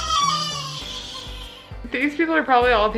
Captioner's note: baby crying